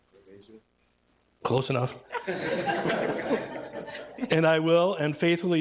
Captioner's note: everybody laughing